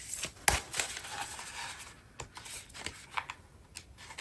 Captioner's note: drawing cards